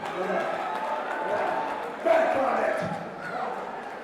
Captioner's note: crowd cheering